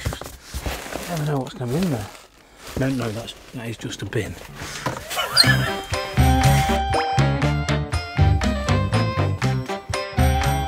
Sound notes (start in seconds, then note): 5.1 laughing; 6.8 playful music